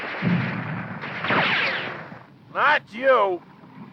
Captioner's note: guns firing